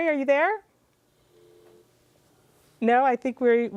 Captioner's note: dial tone rings